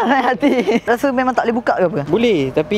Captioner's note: laughing